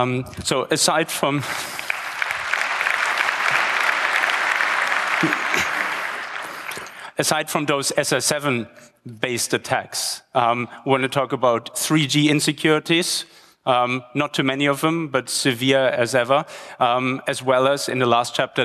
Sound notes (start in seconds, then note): 1.3 applause